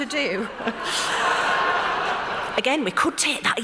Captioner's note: loud laughter